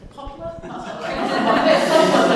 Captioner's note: all laughing